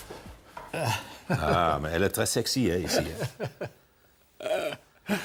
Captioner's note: laughs